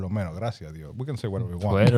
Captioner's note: speaking Spanish